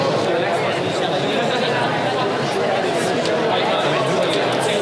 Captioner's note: crowd conversing